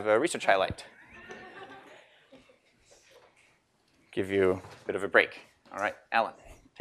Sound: laugh

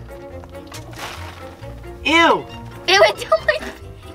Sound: oats scattering

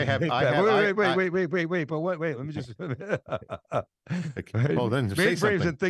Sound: laughing

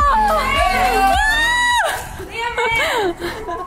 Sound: cheering

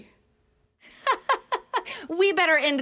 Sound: laughs

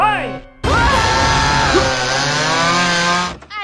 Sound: both screaming; chainsaw revving

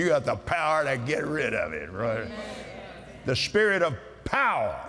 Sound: audience "Amens"

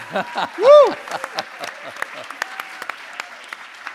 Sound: laughs

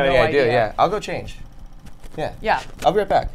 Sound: none

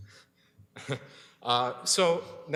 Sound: chuckles

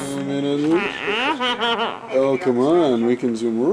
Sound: wails

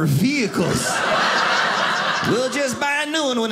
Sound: audience laughing

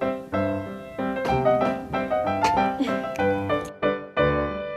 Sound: yawns

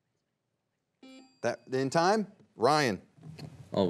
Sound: buzzer beeps once; bell dings

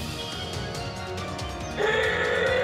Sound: elephant trumpets

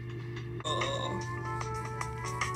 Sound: groans

